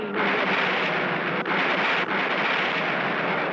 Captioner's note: train crashing